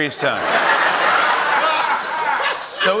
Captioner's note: laughter